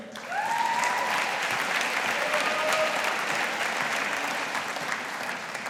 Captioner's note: audience applauding